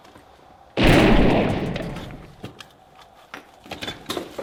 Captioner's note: gunshot bangs